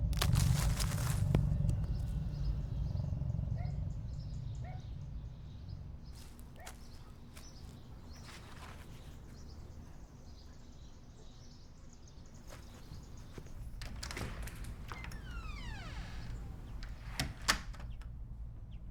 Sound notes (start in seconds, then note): 0.0 crackling leaves; 2.2 birds chirping; 2.3 distant dog barking; 12.5 creaks; 12.5 door clatters